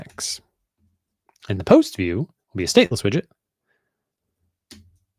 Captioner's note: none